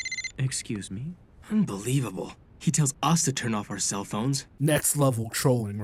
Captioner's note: phone rings